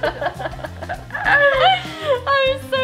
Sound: both laugh

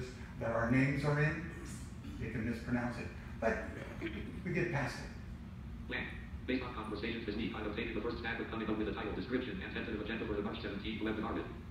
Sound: JAWS speaks

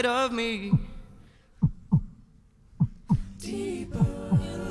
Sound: mimicking heartbeat

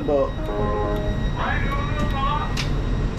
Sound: door chime sounds; voice over intercom

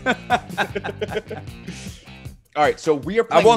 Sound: laugh

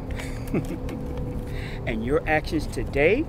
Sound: laughing

